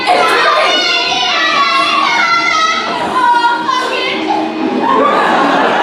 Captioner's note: extremely distressed noises